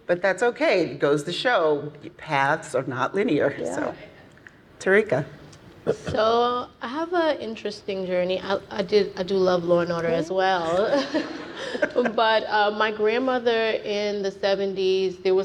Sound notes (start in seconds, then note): 10.7 laughing